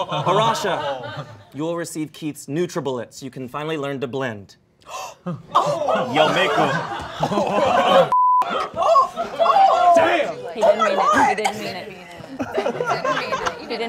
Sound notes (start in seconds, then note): 0.0 all laughing; 4.8 all gasping